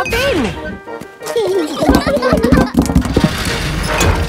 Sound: children giggling

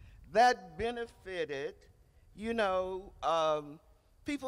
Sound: none

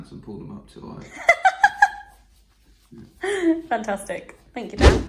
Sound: laughing

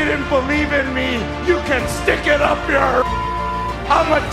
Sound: beep

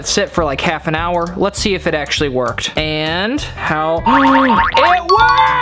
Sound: inhales

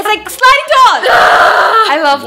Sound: victorious shout

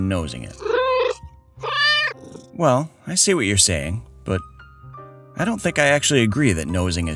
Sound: meow

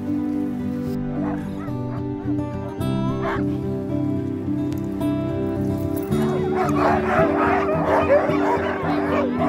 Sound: dogs barking

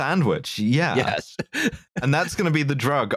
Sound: laughing

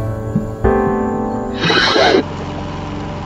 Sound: record scratching sound; equipment running in background; ambient music

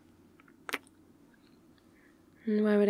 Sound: kiss

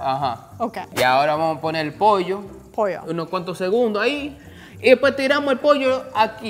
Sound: speaking in foreign language

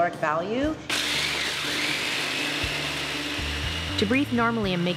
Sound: blender whirring

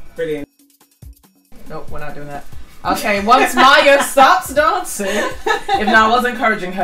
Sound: laughs

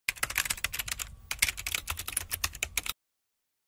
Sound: typing

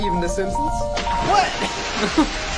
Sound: water splashes loudly

